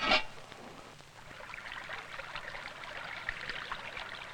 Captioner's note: sound of a water stream